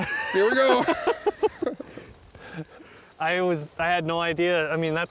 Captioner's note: laughing